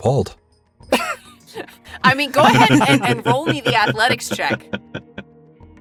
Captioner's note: chuckles